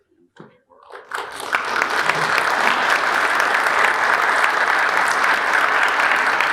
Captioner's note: audience applauding